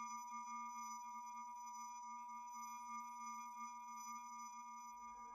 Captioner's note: high-pitched tone ringing